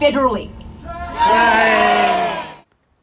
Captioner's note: crowd